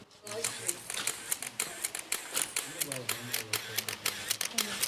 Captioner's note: camera clicking